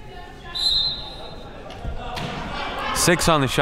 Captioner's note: referee blows whistle